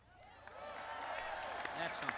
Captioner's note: applause